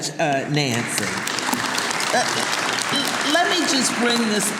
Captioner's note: audience applauding